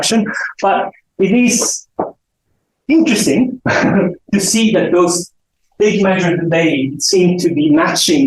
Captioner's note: chuckles